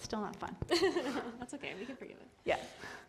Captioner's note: laughter